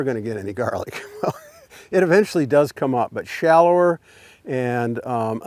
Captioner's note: chuckles